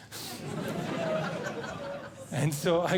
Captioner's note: audience Laughing